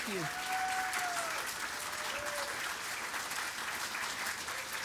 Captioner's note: applause